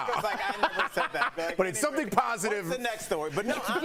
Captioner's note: laughter